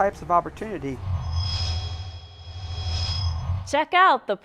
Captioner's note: sound Effects